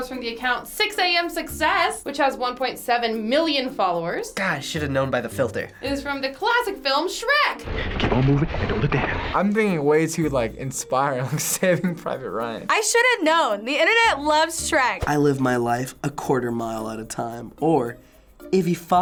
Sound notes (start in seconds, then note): 12.7 laughs